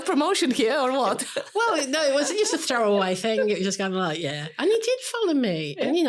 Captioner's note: laughing